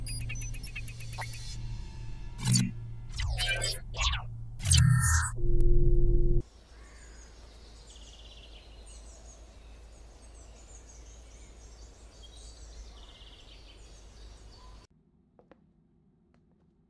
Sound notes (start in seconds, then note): none